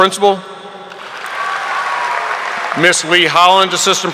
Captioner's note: audience applauding